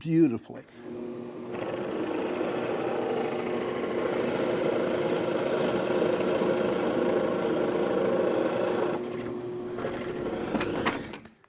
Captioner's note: machine drilling